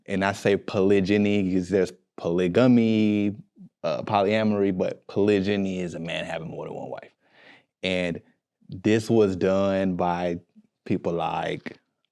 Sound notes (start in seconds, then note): none